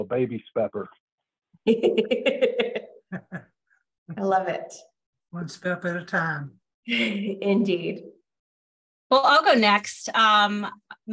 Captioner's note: laughs